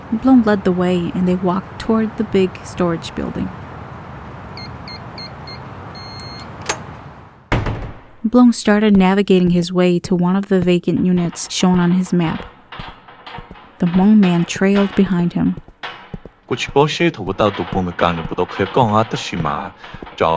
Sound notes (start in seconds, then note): 4.5 keypad sound; 6.6 door open